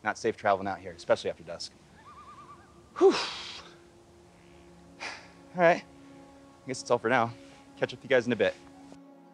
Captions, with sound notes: Not safe traveling out here, especially after dusk. [bird hoots] [exhaling] Whoof! All right. I guess that's all for now. Catch up with you guys in a bit.